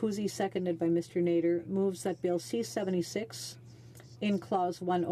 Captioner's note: speaking French